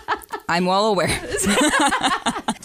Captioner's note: laughter